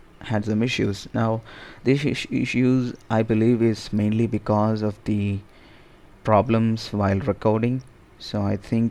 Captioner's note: ehm